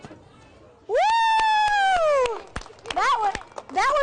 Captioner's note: cheers, applause